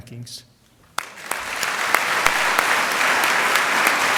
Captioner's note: applause